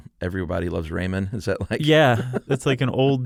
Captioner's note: laughs